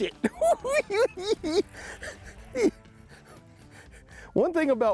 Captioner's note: cackling